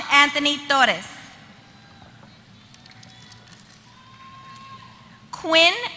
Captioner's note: applause